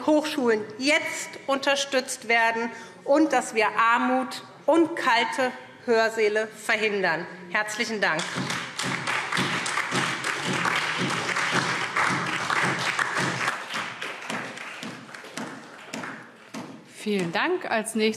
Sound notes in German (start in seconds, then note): 8.2 Beifall SPD und vereinzelt DIE LINKE